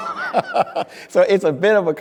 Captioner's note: speaker laughing